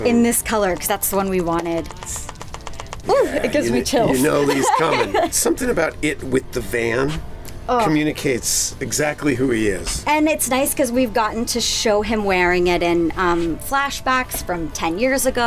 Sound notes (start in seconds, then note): 2.0 rattles; 4.1 laughter